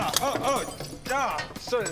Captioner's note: smash